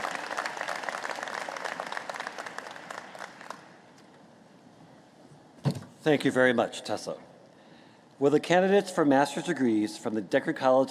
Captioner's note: applause